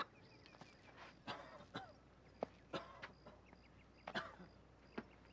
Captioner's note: Chance coughing